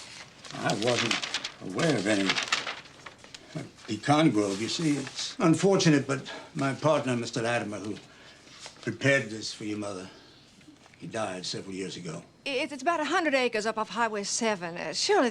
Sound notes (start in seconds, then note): none